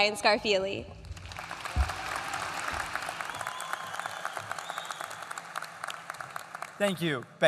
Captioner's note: applause